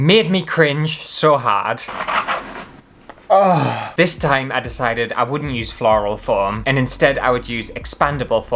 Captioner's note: squeaky Foam